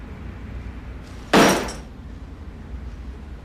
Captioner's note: bag thuds